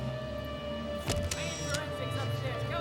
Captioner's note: camera clicks